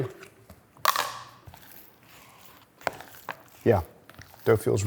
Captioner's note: lid clattering